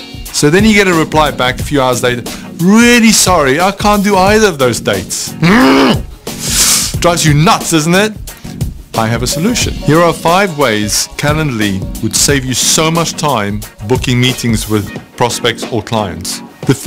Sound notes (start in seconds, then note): 5.4 presenter grunts